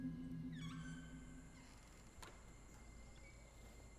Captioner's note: Door creaks closes